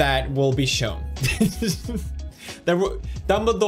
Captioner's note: laughs